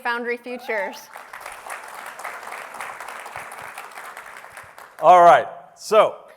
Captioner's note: applause